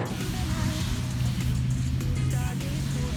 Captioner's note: cars buzzing